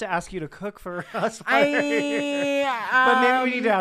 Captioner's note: laughing